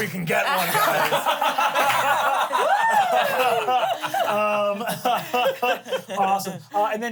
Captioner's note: everyone laughs